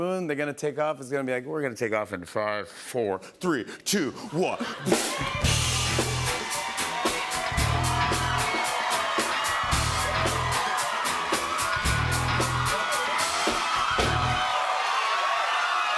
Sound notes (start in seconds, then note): 4.9 upbeat music plays; 7.6 cheers and applause